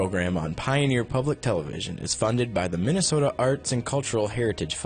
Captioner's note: voiceover